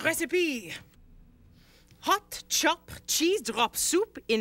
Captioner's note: Cleo reading aloud